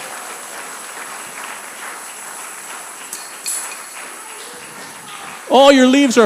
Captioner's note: congregant cheers; congregation applauding